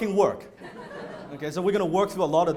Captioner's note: laughter